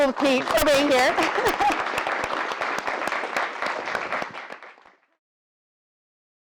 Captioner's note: applause; laugh